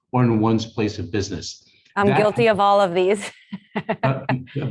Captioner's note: laughs